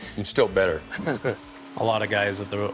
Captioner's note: chuckles